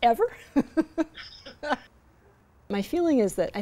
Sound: laughter

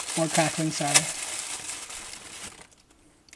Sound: paper crackling

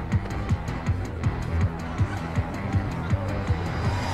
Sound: cheering

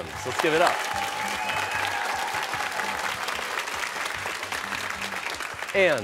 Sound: cheers and applause

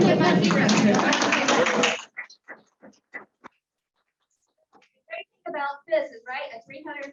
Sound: applause

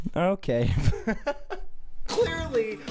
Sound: laugh

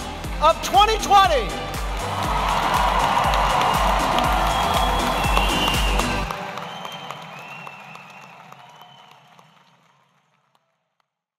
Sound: cheering and clapping

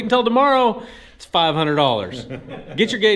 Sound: all laugh

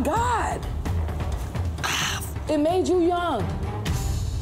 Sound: sighs

